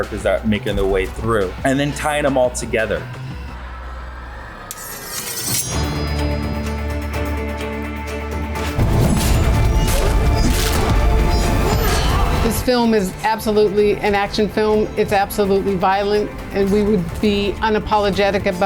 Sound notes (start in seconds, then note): 4.7 sword slashing; 6.1 upbeat orchestra music; 9.3 sword slashing